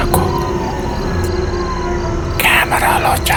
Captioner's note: jackals howling